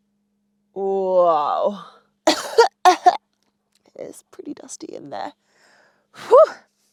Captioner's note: coughs